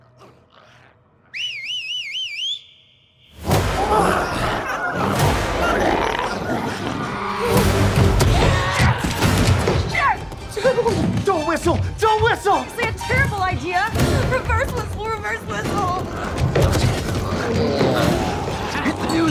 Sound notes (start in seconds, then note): 1.2 Darlus whistles; 3.4 glowzies growling; 3.5 dramatic music; 15.3 glowzies growling; 16.8 dramatic music continues